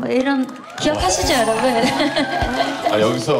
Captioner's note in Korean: 짝짝짝짝짝짝짝짝짝짝